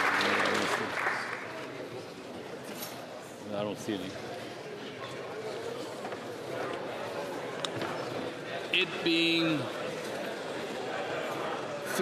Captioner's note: applause